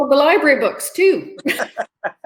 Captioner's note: laughter